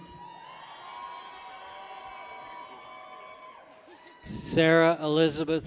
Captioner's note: people cheer